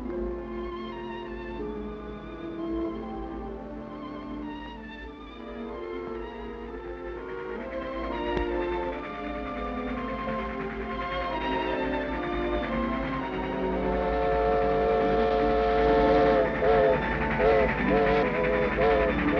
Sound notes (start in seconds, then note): 0.2 gentle, romantic music; 13.7 train chugs; 13.7 train horn whistles